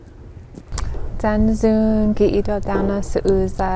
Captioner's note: speaking Native language